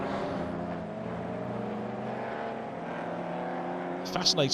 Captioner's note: car engines revving